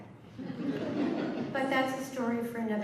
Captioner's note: laughter